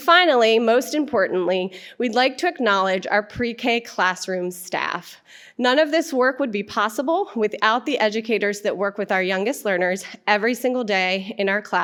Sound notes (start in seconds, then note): none